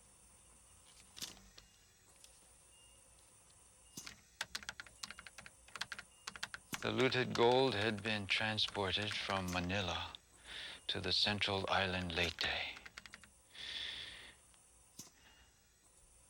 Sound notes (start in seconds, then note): 4.0 keys clicking